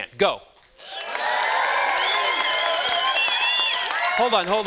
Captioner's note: students cheering